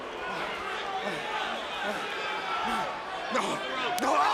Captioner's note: crowd chattering; crowd gasping; Trick panting